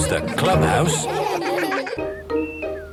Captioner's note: all laughing